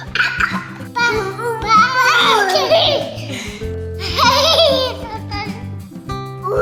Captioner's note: baby coos; soft music